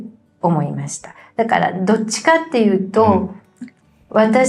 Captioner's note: laughs